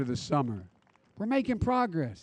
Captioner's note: applause